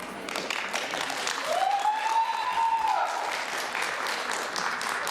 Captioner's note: applause